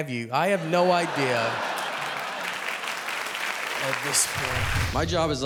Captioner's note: audience laughing